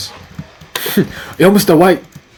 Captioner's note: snicker